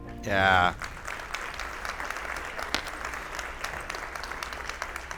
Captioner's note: attendees applauding